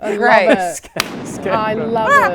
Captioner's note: boom